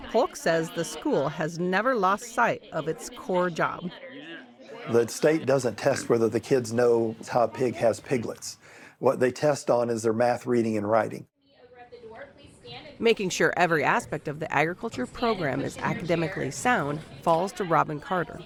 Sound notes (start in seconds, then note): 12.1 voice-over